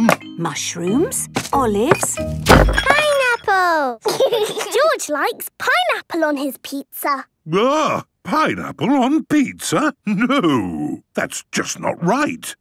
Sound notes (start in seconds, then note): 1.3 bangs; 4.0 laughs